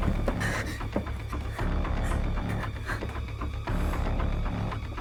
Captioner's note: footsteps thudding; Tina gasping